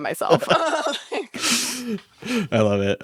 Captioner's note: all laugh